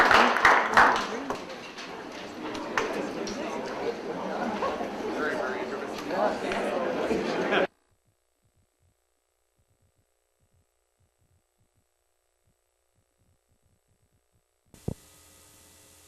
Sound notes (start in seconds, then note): 0.0 audience chattering